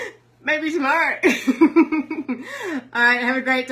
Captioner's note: laughs